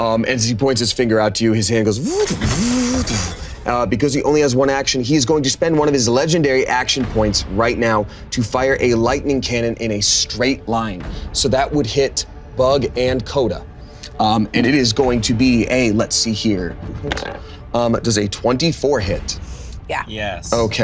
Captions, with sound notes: As he points his finger out to you, his hand goes, (imitating mech whirring) Because he only has one action, he's going to spend one of his legendary action points right now to fire a lightning cannon in a straight line. So that would hit Bug and Koda. And it is going to be a, let's see here. Does a 24 hit? - Yeah. - Yes.